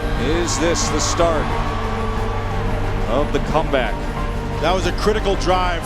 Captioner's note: voiceover